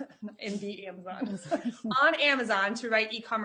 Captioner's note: chuckling